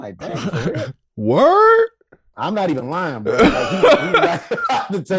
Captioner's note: laughing